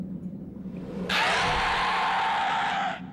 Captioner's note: dragon screeching